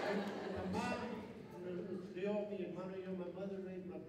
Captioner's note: laughter; non-english speech